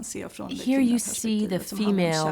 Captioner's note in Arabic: الصوت المنطوق باللغة الأجنبية